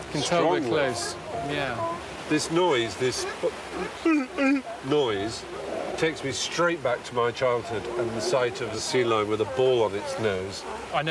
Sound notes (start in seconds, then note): 3.6 imitates sea lion barking